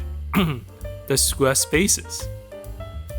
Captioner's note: cough